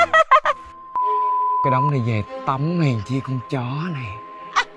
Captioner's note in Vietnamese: beep beep beep